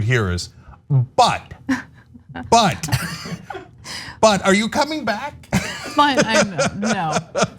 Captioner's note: laugh